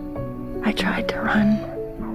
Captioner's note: voiceover